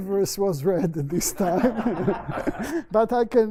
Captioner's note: laughter